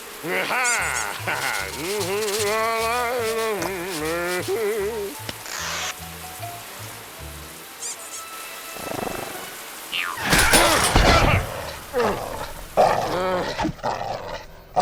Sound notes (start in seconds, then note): 0.2 laughs; 0.8 duck squeaks; 1.7 humming; 7.8 squeak squeak